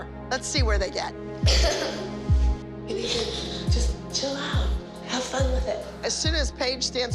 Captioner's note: paige crying